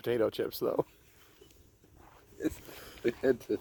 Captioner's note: laughing